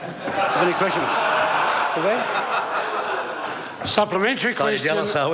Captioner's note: members laugh